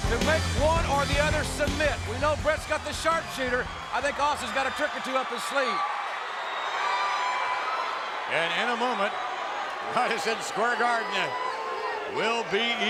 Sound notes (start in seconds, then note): 6.5 crowd cheering